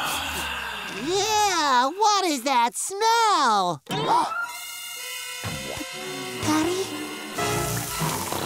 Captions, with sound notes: Ew. What is that smell? [gasping] Patty?